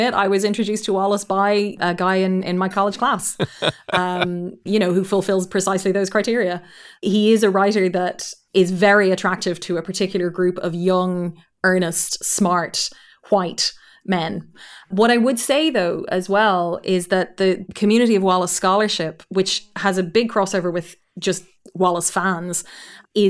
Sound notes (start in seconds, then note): 3.2 laughing